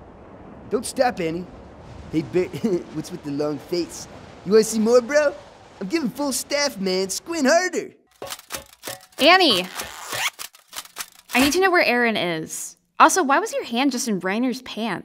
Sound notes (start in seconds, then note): 2.7 weird laugh; 9.5 zziiiippp